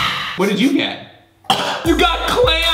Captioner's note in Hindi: खांसी